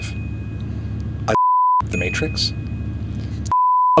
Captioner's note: screen beeps